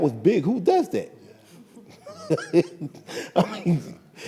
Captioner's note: laughs